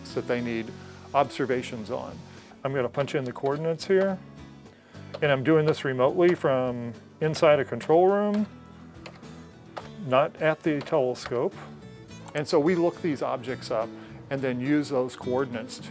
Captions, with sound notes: that they need observations on. I'm gonna punch in the coordinates here and I'm doing this remotely from inside a control room [ computer keys click ] not at the telescope. And so we look these objects up and then use those coordinates